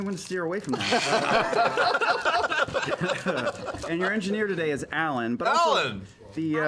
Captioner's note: laughter